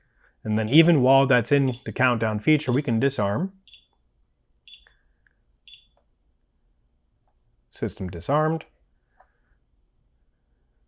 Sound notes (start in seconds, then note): 2.4 alarm beeping